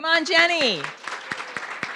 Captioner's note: audience clapping